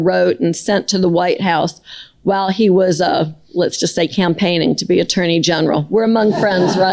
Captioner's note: laughter